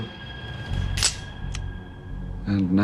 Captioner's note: click